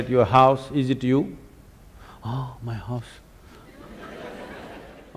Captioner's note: laughter; 笑聲